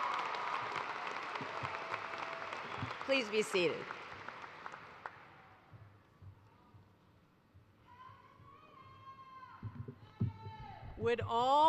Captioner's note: cheers and applause